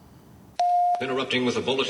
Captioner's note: news broadcast beeping